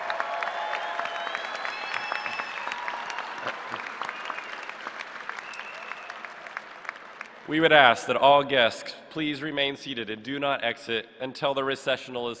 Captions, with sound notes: JOB. >> GRADUATES, ON BEHALF OF THE COLLEGE OF ENGINEERING, CONGRATULATIONS ON YOUR WELL-EARNED ACHIEVEMENTS AND OFFICIALLY BECOMING A K-STATE ENGINEER. [CHEERS AND APPLAUSE]